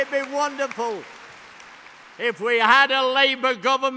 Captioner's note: applause